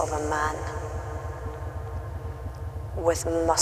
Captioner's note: echo swells